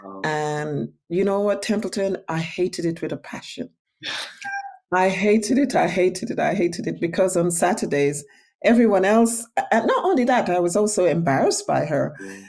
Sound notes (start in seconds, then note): 4.1 laughing